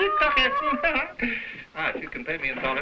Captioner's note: Burgomil speaking foreign language